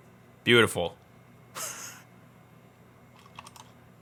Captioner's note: laughs